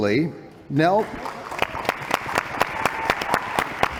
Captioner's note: applause